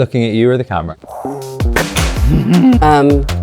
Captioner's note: actress exhaling; upbeat music